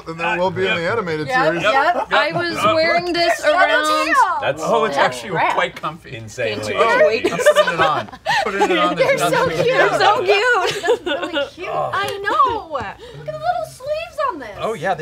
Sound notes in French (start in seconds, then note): 7.2 rires